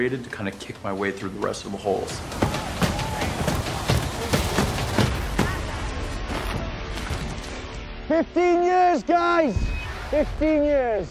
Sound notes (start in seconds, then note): 3.7 thudding and crashing